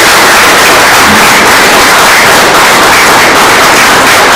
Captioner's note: oklaski